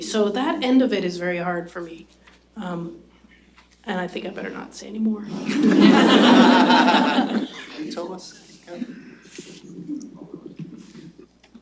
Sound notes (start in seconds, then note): 5.4 laughter